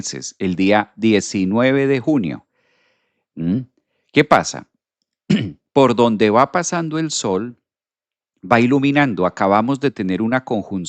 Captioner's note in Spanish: carraspeo